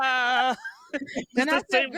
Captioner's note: laughter